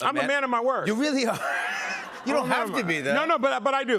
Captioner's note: laughter